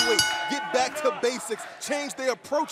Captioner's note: bell ringing